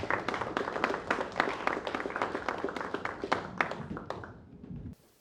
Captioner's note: applause